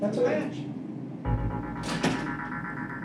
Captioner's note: door closes